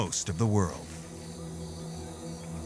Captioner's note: birds singing